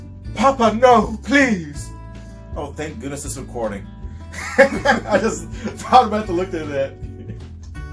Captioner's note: laughter